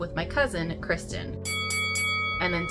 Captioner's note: ding ding ding